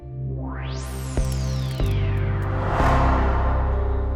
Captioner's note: logo whooshing